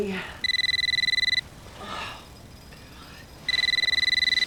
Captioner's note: telephone ringing